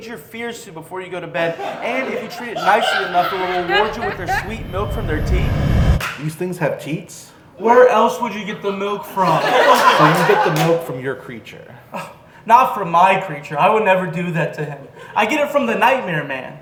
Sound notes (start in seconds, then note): 3.0 ringing noise intensifies; 3.4 ringing noise; 8.4 laughter